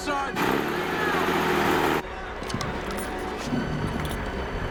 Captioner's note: jeep revving